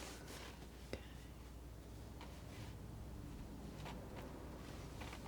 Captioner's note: scratching